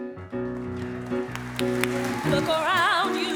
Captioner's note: audience applause